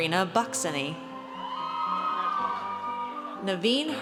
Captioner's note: audience cheers